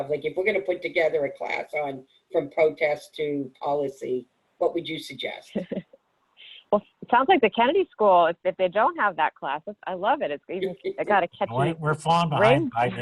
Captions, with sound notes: like if we're gonna put together a class on, from protests to policy, what would you suggest? - (laughs) Well, it sounds like the Kennedy School, if they don't have that class, I love it. It got a catchy ring to it. - We're falling behind.